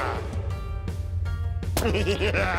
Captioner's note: giggles